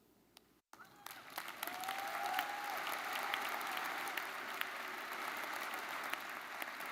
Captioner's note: audience applauding; audience cheering